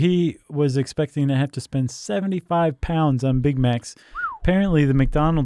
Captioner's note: whistles